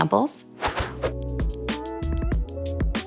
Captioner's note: air whooshing; relaxed music